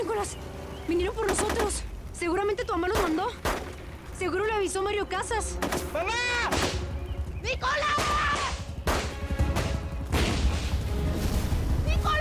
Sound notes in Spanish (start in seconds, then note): 6.4 Disparos